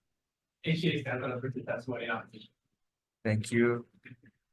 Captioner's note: faintly speaks